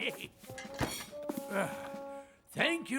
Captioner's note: sigh